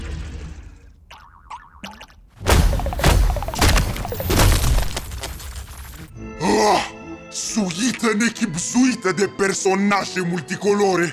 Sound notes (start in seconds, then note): 1.1 Gloink boinking softly